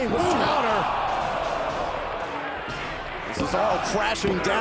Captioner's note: crowd exclaiming